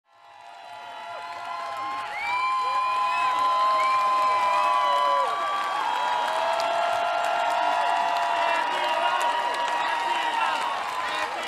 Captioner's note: cheers, applause